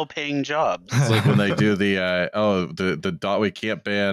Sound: laughter

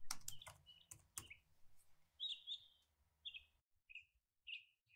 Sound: bird chirping continues

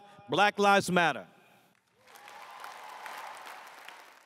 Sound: crowd cheers

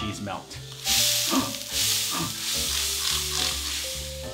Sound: gasping

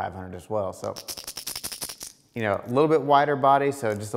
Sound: bait rattling

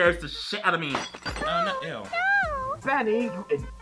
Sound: mug shatters

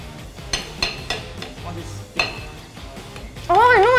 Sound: knocks plate

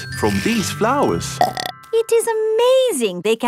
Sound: burps

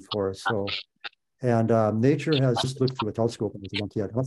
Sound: connection breaks sound up

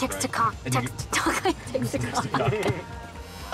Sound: laughing

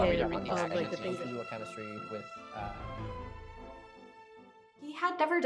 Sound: voices slowly fade out

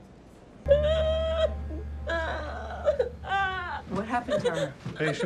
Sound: hysterical crying

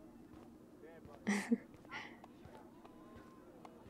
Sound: laughs

